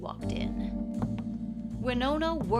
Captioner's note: shoes clacking